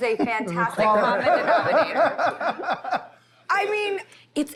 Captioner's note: laughter